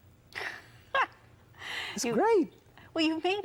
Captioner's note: she laughs